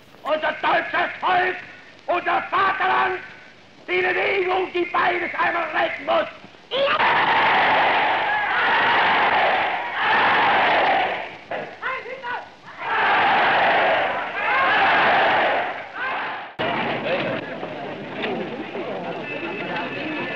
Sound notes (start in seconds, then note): 0.2 German speech; 6.6 cheering